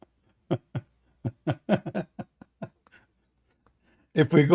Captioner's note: Ketawa